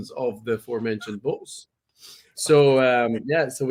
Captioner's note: laughs